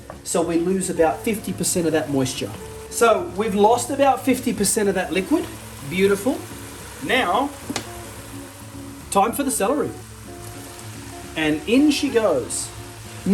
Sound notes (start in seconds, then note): 7.2 sizzling